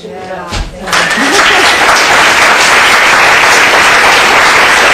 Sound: applause

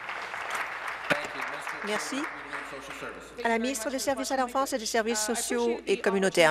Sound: applause

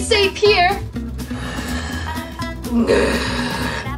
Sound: mummy Growling

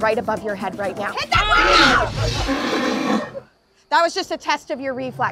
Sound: Blue roars

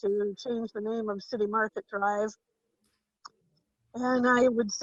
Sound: faintly speaking

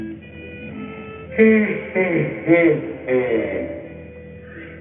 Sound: yawning

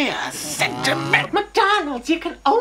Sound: honk

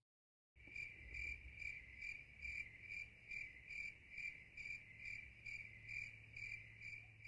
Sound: crickets chirp

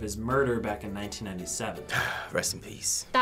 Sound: sighs

